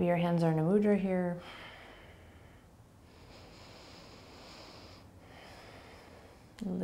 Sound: breathing

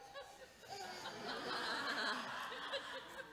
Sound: audience laughing

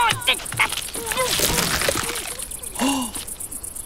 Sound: jaws crunching; woman moaning; man gasps

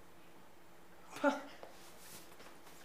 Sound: Hener scoffs

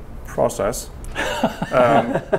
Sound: chuckling

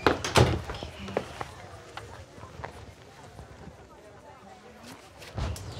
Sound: party goers chattering

